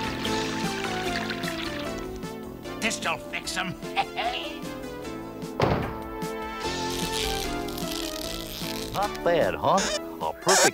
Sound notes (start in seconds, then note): 3.8 laughs